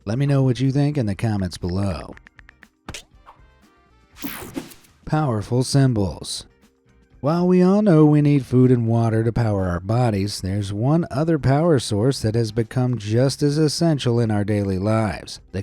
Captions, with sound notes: Let me know what you think in the comments below. (cell phone keyboard clicking) Powerful symbols. While we all know we need food and water to power our bodies, there's one other power source that has become just as essential in our daily lives,